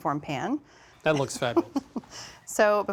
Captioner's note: laughing